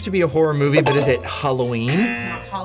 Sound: klaxon sounds

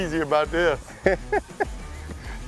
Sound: laughs

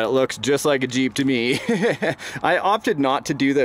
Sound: laughs

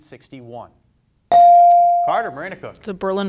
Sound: bell dings

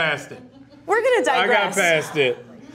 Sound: interviewer laughs

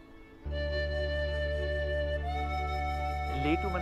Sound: birds chirping

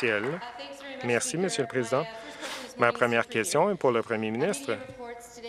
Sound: applause

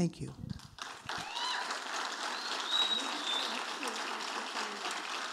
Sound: audience applauding

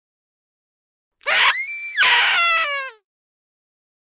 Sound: sound of party trumpet

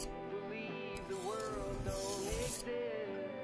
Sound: knife-sharpening sounds

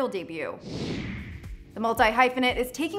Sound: air whooshing; hip upbeat music

